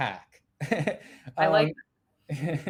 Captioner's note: chuckles